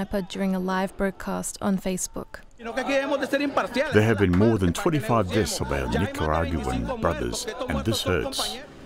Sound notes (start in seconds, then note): 2.4 speaking in Foreign Language